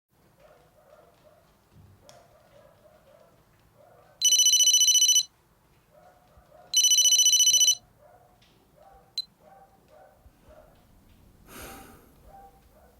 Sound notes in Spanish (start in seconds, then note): 4.2 Suena un teléfono; 11.3 Suspiro